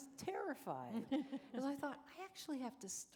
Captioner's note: chuckle